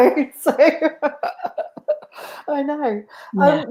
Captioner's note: laughing